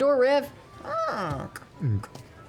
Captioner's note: creaking sound